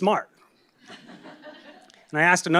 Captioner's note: laugh